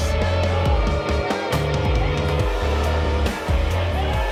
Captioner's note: audience boos